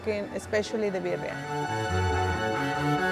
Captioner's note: spanish